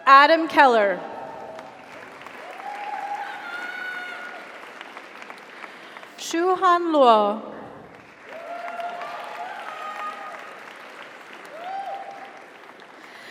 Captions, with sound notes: Adam Keller. (audience applauds) (audience cheers) Shu-Han Luo. (audience applauds) (audience cheers)